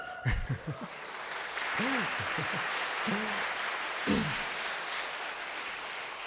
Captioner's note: crowd cheering; crowd clapping